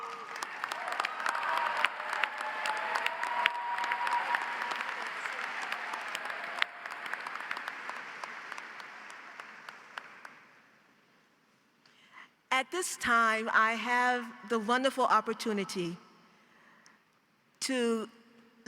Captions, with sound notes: (audience applauds) (audience cheers) At this time, I have the wonderful opportunity to let you know